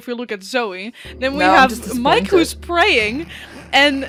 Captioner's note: laughs